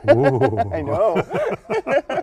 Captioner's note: laughter